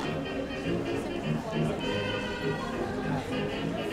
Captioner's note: audience chattering